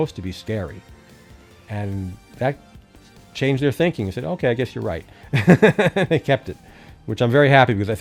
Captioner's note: chuckle